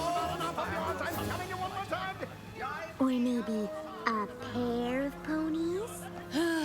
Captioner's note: arguing